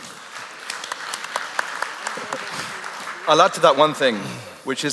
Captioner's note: applause